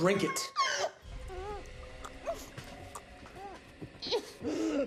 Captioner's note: Maria choking